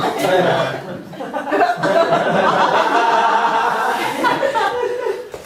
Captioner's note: audience laughing